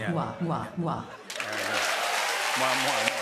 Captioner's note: cheers and applause